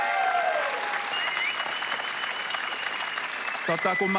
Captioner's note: applause